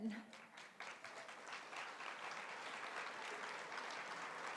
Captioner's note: applause